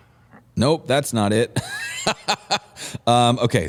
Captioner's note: laughter